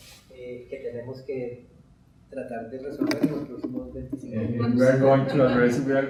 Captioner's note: speaking in Spanish